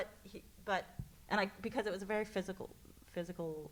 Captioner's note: none